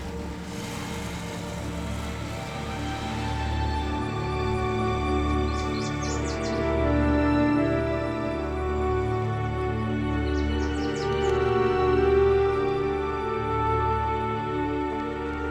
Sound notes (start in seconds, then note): 5.7 birds singing; 8.4 soft music